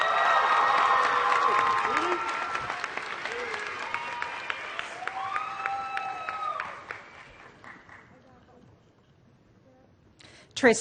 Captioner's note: applause